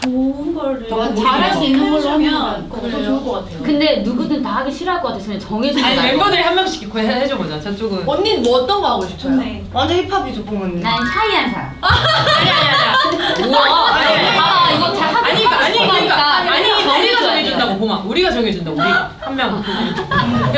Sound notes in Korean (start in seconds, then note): 11.8 빵 터짐